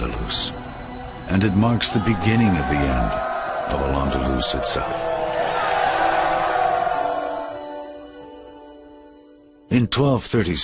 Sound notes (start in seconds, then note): 5.7 cheering